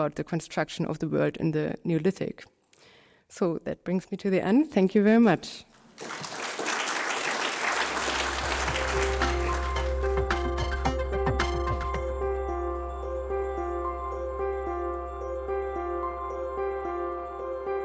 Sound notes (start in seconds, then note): 11.4 applause